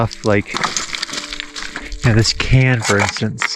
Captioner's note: gravel rattling